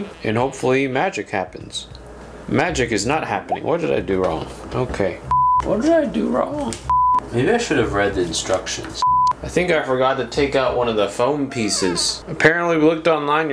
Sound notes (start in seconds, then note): 5.3 beeps; 6.9 beeps